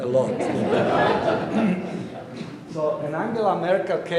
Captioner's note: audience laughing